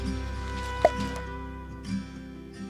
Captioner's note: pop